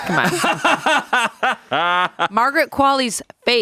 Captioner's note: laughs